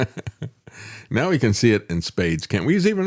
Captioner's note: laughing